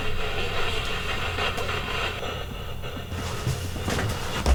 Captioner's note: radio static hisses